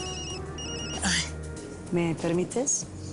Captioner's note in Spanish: Suena el celular